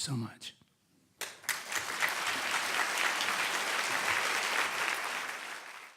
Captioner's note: audience applauding loudly